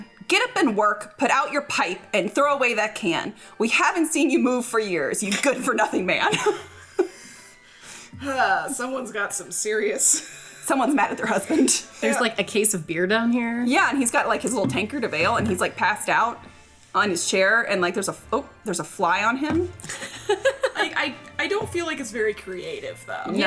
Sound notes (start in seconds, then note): 6.2 chuckling; 19.8 laughing